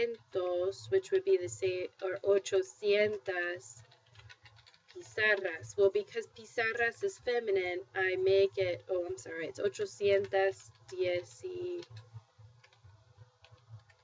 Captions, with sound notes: which would be the same-- or [spanish]. Well, because [spanish] is feminine, I make it-- oh, I'm sorry. It's [spanish].